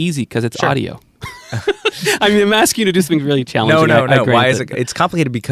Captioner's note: laughs